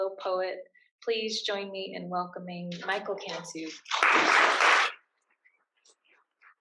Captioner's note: applause